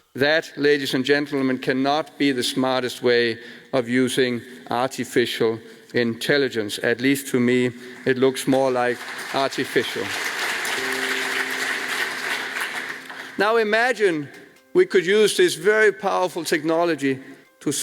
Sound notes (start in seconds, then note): 10.1 audience applauds